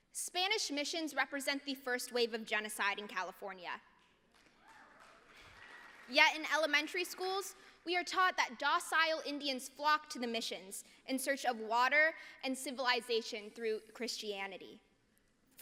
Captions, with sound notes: Spanish missions represent the first wave of genocide in California. [APPLAUSE] Yet in elementary schools, we are taught that docile Indians flocked to the missions in search of water and civilization through Christianity.